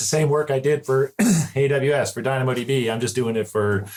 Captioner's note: clear throat